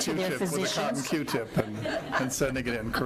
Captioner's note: laughing